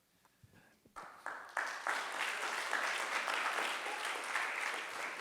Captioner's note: crowd applauds